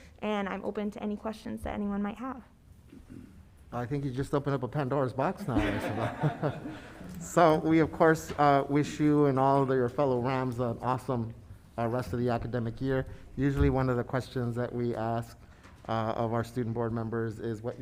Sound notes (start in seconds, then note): 5.4 panelists laughing